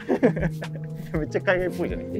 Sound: laughing

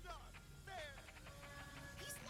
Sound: machine runs out

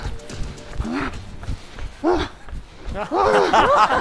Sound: panting

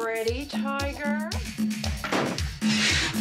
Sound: slam

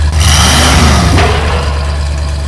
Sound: engine revs; slam

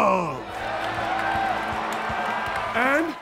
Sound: cheers, applause

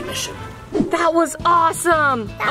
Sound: air whooshing

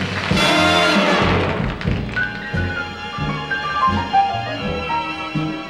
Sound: audience applauding

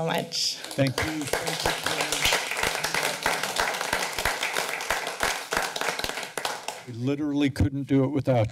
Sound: applause

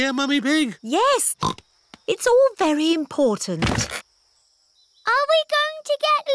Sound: snorts

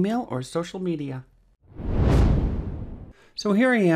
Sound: wind whooshing

